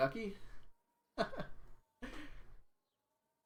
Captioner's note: laughs